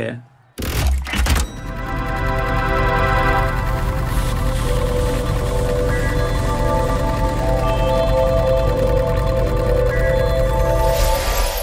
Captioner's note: mechanical sounds. Time travel whoosh